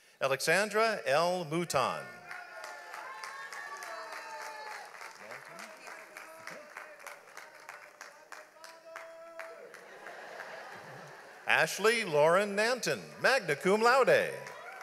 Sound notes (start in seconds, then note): 2.9 audience applauds; 5.3 man cheering; 5.7 audience laughs